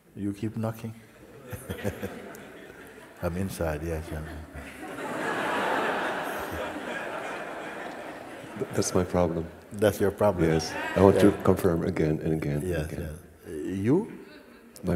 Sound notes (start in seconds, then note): 6.5 laughter